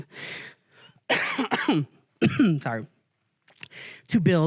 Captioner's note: coughs